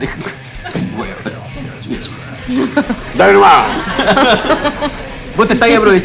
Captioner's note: laughs